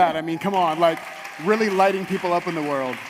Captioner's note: audience applauds